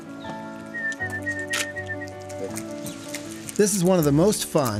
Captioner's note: whistles